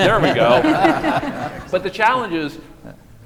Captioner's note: audience and panellists laughing; person clapping